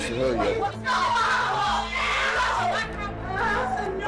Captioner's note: screaming